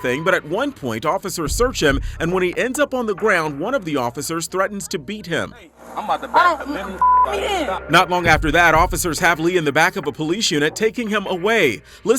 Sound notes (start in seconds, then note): 6.9 beep